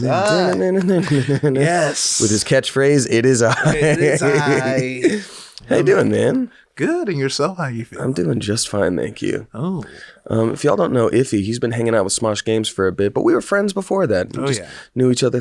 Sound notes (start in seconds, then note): 3.4 laughs